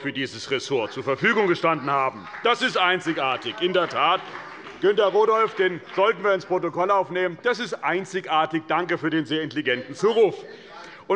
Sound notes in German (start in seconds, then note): 2.3 Beifall bei dem : Einzigartig!